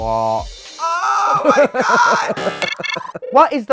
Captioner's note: Baga chuckles